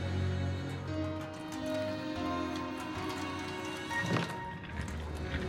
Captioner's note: somber music; water dripping